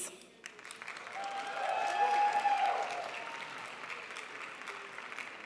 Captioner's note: crowd applauds